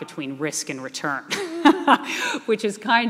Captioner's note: laughing